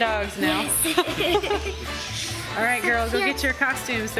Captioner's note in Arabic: يضحك